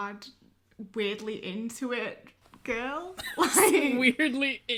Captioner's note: laughter